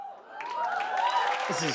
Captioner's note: cheers and applause